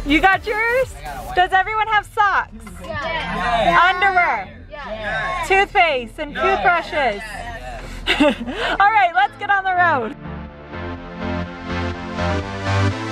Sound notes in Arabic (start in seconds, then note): 8.3 ضحك; 10.5 موسيقى راقصة